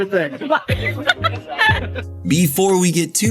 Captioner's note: laughter